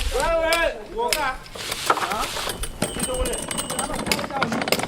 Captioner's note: chatter